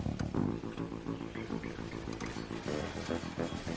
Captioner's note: quietly